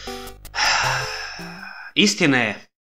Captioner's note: sigh